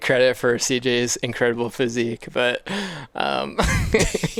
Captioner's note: laughs